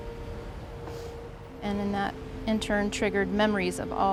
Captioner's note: sniffs